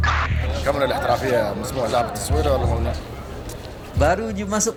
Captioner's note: speaking Arabic